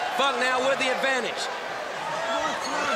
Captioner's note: crowd chatter